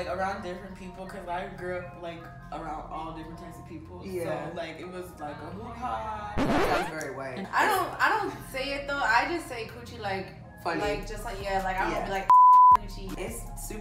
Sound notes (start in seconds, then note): 6.4 record scratching